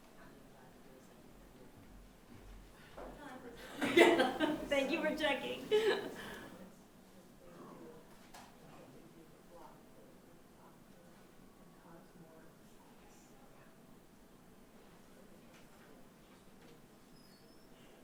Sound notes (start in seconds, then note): 3.6 chuckling